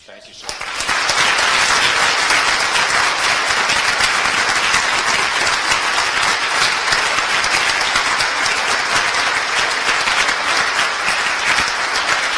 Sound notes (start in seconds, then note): 0.4 applause